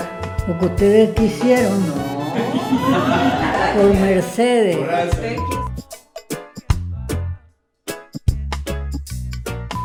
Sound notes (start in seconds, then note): 2.0 laughter